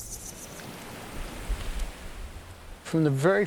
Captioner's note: hiss of waves crashing on shore